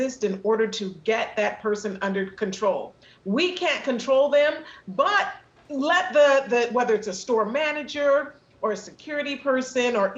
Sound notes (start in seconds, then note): none